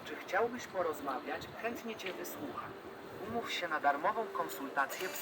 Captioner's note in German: spricht auf Polnisch